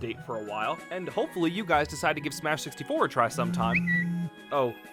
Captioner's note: phone buzzing